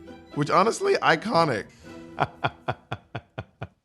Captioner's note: laughs